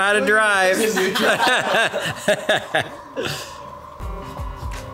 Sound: everyone laughs

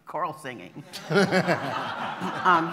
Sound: laughter

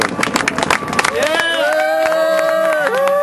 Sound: cheering and applause

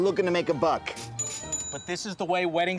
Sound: cash register ringing

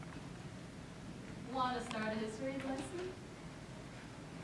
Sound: none

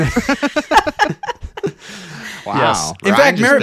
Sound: laughing

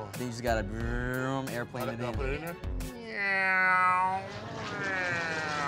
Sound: airplane sounds

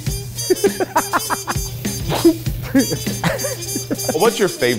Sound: laughs

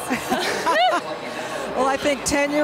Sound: laughing

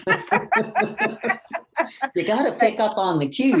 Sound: laughter

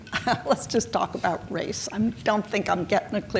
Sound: chuckles

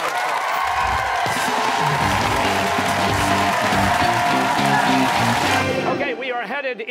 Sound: cheers and applause

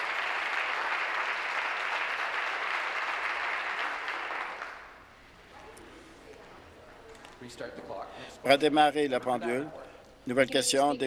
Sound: applause

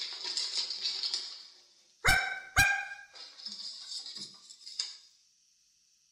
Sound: Pickles barks

